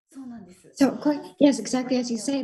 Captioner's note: Marie speaking foreign language